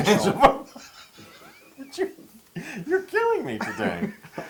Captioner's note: laugh; laugh